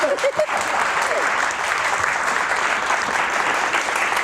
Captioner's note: audience clapping